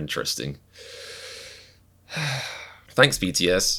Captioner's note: inhales and exhales deeply